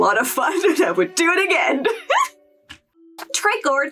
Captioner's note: laugh